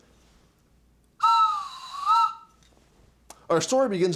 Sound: blows whistle

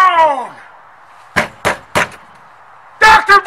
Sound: knocking

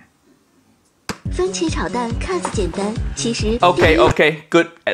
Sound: speaking in foreign language

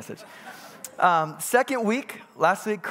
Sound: congregants bustling

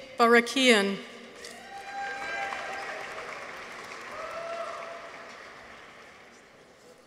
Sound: people cheer; audience applauds

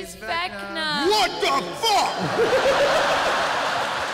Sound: shouting; laughter

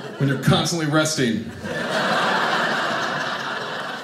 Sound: audience laughing

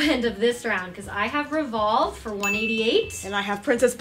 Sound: ding

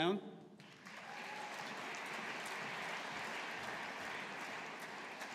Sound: audience applauding

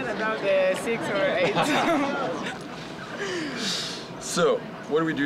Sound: both laughing

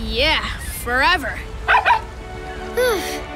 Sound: barking

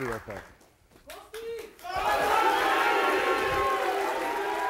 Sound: audience shouting

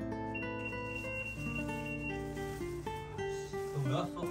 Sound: door lock warning sound in silence

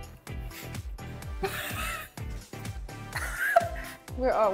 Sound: laughs

